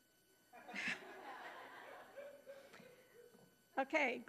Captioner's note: audience laughing